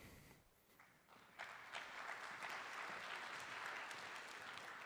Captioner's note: applause